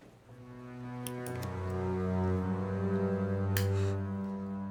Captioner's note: lighter clicks